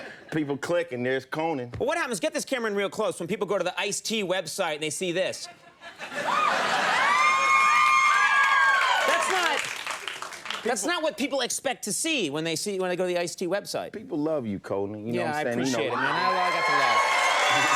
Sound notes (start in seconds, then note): 6.1 audience cheering; 15.6 audience cheering